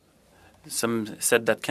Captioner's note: speaking French